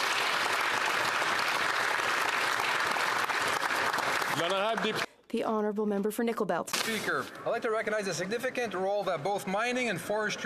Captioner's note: applause